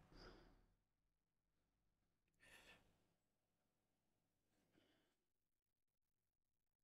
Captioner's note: silence